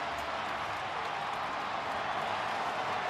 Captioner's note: crowd cheering